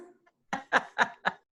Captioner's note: both laughing